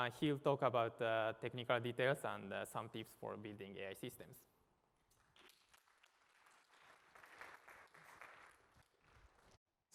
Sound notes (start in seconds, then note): 5.1 applause